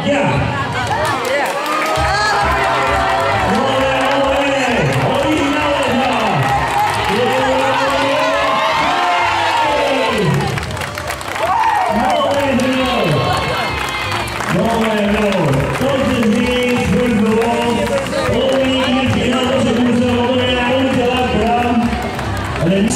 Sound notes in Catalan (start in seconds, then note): 0.3 Crits i aplaudiments; 6.2 Més crits i aplaudiments i més forts